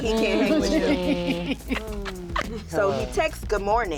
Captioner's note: laughter